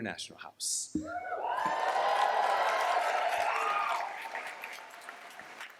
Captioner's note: cheers, applause